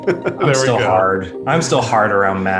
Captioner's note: laughing